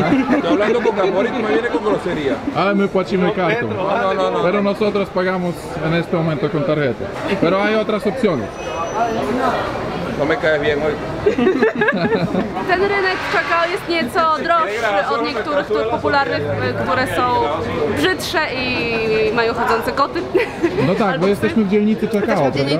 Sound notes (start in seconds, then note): 11.2 everyone laughs